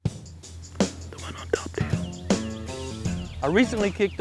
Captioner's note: whispering